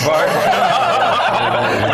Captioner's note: laugh